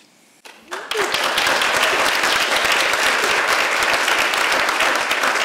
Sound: audience applauds

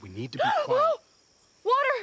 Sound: gasps

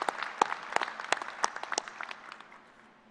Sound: applause

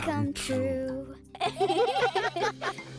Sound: laughing

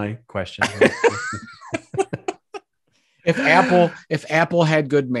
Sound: both laughs

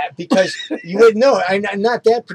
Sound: laughs

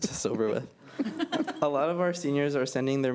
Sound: laughter

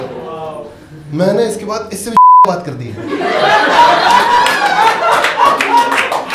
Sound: audience wows; audience claps

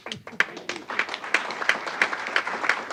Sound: applause

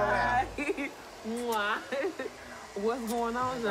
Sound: smooches

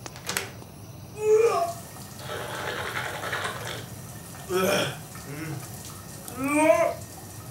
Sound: babbling sound

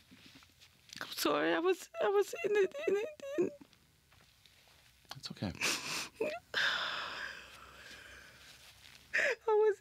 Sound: crying

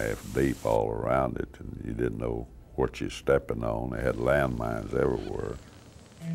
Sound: detector squawking

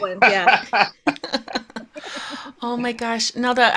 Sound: chuckling

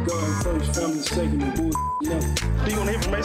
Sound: beep

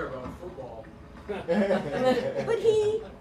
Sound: laughter

